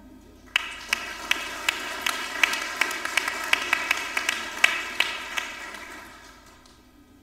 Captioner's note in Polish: oklaski